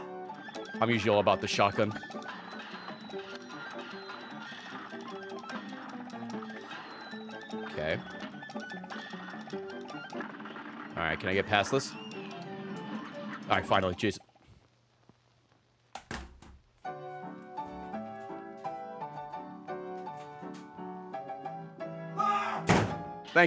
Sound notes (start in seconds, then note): 18.1 screams; 19.1 slams door